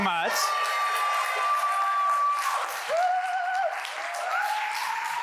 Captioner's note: audience applauds